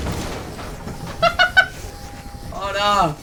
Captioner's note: laughing/chicken noises